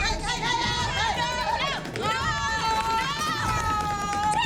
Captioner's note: shouting